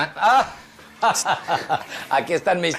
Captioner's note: laughing